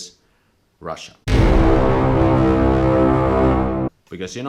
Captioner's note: dramatic klaxon